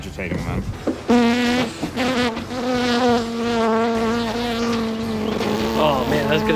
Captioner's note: loud buzzing